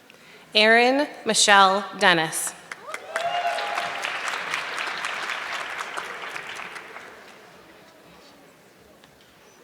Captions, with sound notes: Erin Michelle Dennis. (audience clapping)